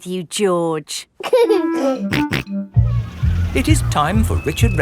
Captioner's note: giggling and snorting